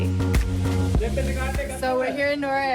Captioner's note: man speaking in foreign language